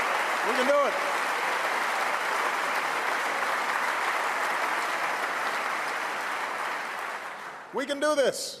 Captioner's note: applause; applause